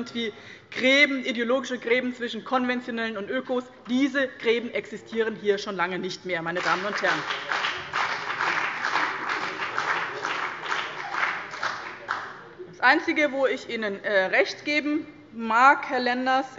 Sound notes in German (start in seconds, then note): 6.5 Beifall bei dem BÜNDNIS 90/DIE GRÜNEN und der CDU